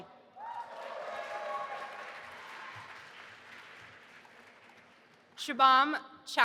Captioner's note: audience applauding and cheering